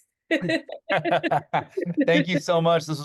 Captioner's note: laughing